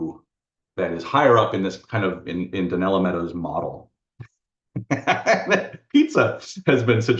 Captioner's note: laughs